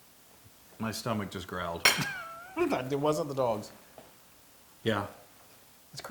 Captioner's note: laugh